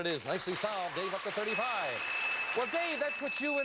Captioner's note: bell